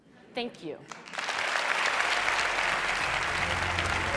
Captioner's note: Applause; 掌聲